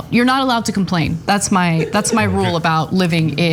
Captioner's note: laugh